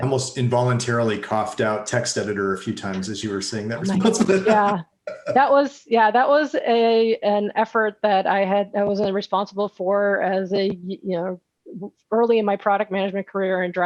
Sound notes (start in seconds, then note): 3.5 laughs